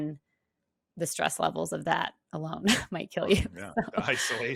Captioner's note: laughs